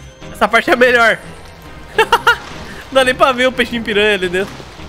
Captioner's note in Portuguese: risos